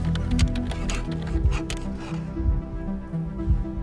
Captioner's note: pen scribbling; suspenseful music